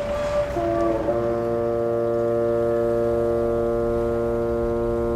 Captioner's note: horn blowing